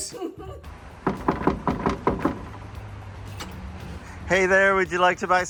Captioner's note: knocking on fence